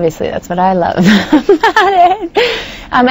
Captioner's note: laughs